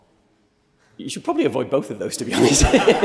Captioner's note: laughter